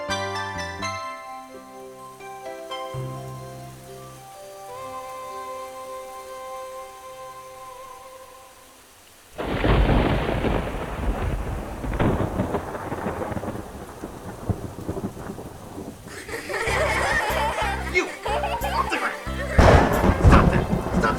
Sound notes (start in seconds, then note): 9.4 רעם; 16.0 צחוק; 19.5 רעם